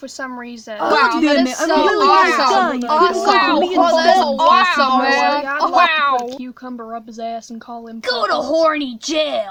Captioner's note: overlapping and amusing villager reactions